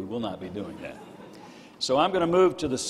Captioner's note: crowd laughing